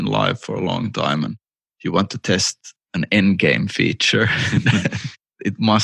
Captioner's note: laughter